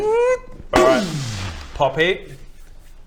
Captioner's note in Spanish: boooommm